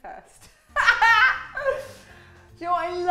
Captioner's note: laughs